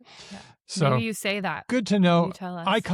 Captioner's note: laughs